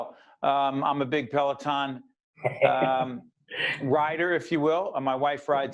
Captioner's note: laughing